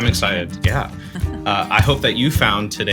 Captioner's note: chuckles